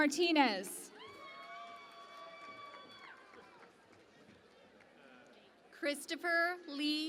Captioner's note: cheering and Applause